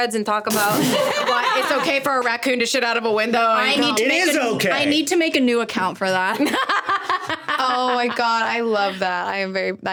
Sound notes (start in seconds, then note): 6.3 laughing